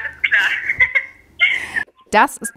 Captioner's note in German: Gelächter